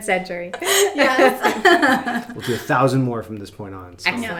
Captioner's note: laughing